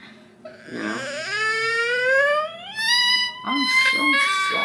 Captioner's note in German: DJ weint